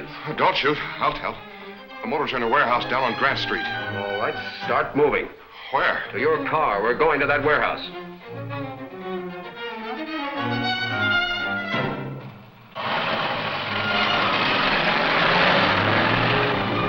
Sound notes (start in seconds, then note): 12.6 motor rumbling